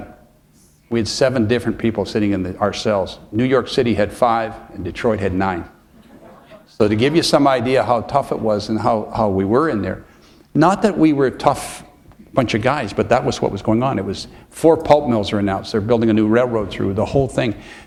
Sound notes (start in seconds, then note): 5.8 chuckle